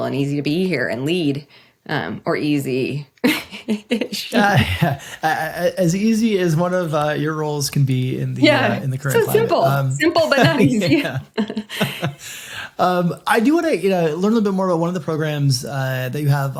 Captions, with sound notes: and easy to be here and lead, or easy. (laughing) - As easy as one of your roles can be in the current climate. - Yeah, so simple. Simple but not easy. (both laughing) - I do want to, you know, learn little bit more about one of the programs that you have